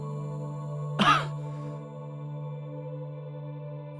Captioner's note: coughing